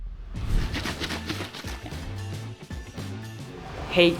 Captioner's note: creamer swishes; upbeat music